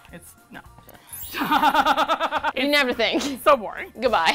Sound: laughs

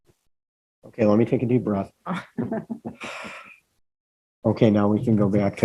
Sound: sighing

